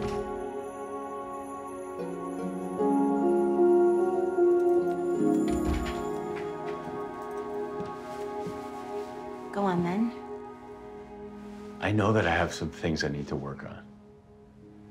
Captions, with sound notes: (door opens) (door closes) Go on then. I know that I have some things I need to work on.